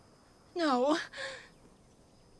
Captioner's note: sobs